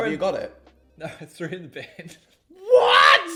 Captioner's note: chuckles